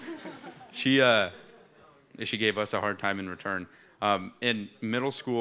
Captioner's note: laughter